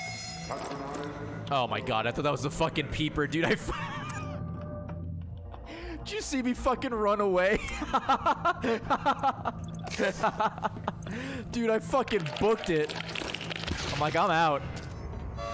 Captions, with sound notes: Oh my God, I thought that was the fucking peeper dude. (laughs) Did you see me fucking run away? (laughs) Dude, I fucking booked it. I'm like, I'm out.